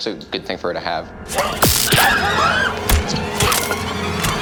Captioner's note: crew shouting